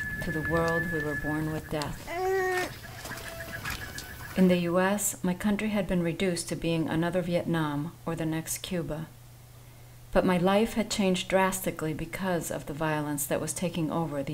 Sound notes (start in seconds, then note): 2.0 baby crying